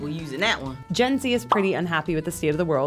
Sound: bubble pops

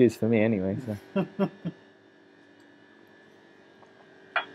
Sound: laughing

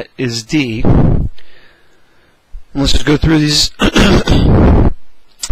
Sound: cough

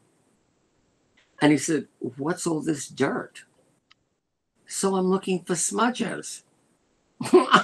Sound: laughter

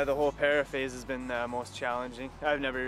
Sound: voiceover

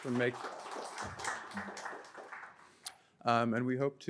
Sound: audience applauding

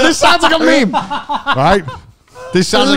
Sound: guffaws

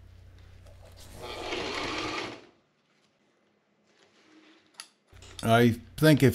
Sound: sewing machine running

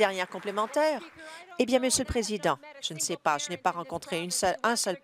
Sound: applause

